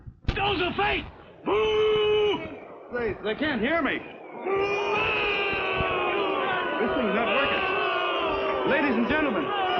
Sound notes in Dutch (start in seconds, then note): 4.3 schreeuwen